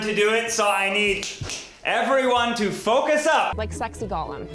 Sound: snaps

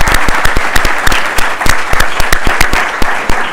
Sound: applause

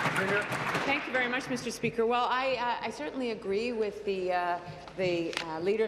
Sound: applause

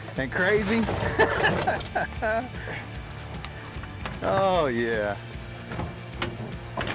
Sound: laughs

